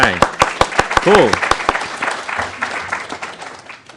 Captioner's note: applause